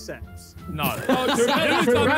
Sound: players laugh

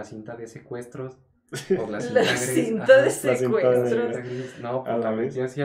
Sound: laughing about the "Ransom tape"

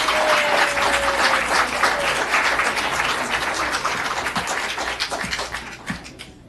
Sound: applause

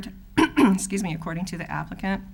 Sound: clears throat

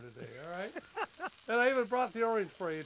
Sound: laughs

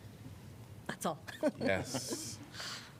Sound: laughter

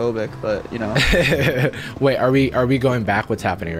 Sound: laughing

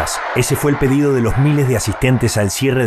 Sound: habla en ingés

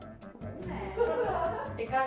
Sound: laughs

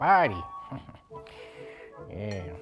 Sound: awkward Latino dad giggle

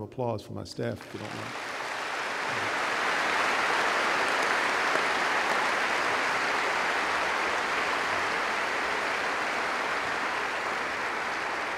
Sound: applause

